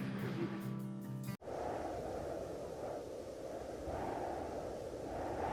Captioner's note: mellow guitar music; wind humming